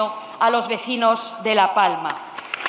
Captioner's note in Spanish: Aplausos